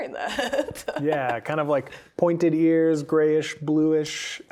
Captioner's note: laughing